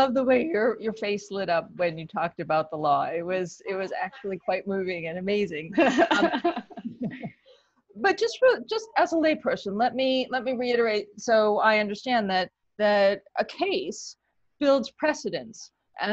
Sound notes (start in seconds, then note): 5.8 laughter